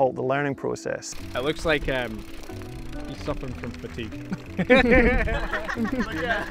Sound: group laughing; laughs

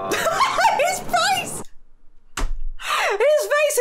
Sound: laughing

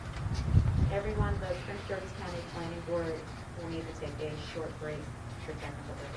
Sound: woman speaking in the background

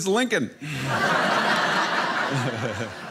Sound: audience laughing

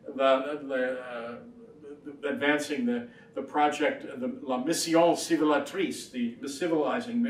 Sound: speaks foreign language

